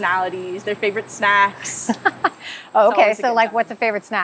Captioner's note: laughing